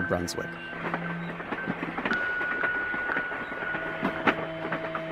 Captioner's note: train wheels clanking